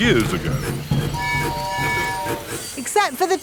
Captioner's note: train tooting